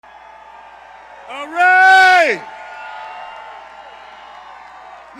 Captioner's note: cheers